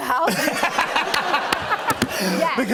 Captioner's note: laughter